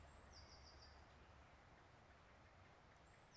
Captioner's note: birds singing